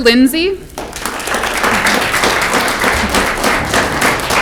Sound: audience clapping

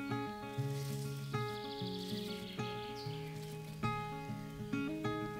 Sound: clipping rosemary; leaves rustle

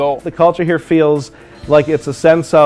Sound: voiceover

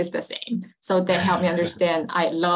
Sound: laughing

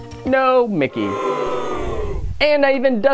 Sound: crowd boos

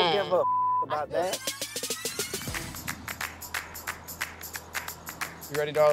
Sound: beep

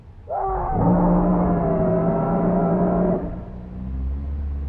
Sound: man and creature scream

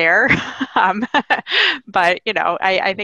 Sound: laughing

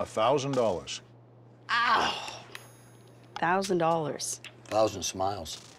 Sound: groans

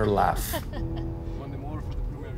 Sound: Juanita laughs

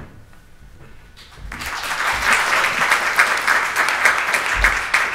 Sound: audience applauds

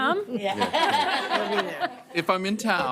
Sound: audience laughing

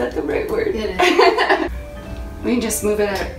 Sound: both laughing

